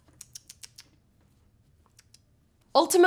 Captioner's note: clicking tongue